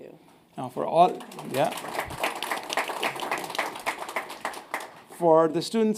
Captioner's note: audience clapping